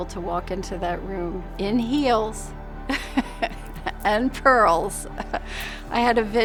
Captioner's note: chuckles